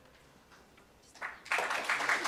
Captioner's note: applause